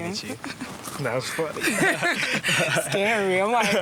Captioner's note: laughs